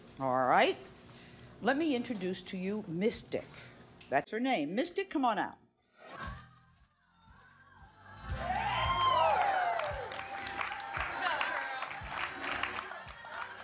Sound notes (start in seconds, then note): 6.3 audience cheers; 6.3 upbeat music